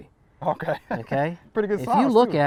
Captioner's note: chuckles